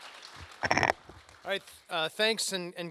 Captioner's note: applause